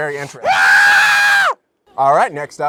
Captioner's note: screams